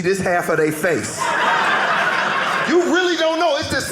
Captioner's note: audience laughing